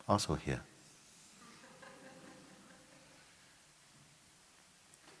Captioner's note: laughter